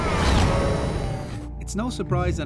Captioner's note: skidding